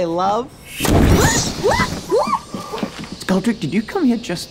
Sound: woman shrieks

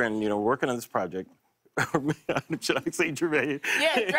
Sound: laughs

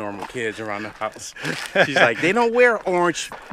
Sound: laughs

